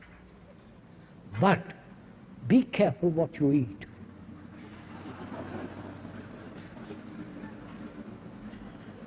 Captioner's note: laughter